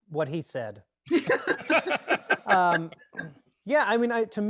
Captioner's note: all laughs